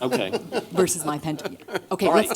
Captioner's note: laughter